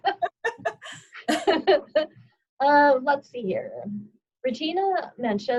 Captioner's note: laughter